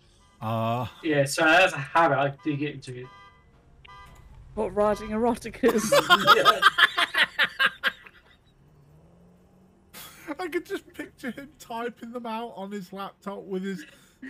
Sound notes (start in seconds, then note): 5.6 laughs